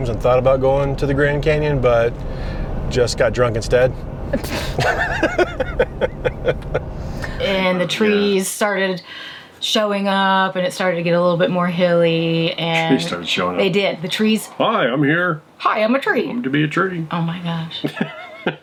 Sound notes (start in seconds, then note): 4.3 both laughing; 17.8 laughing